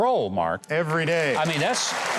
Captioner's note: audience applauds